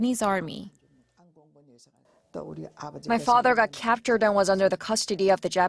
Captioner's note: Korean